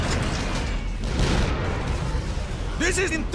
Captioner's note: big explosion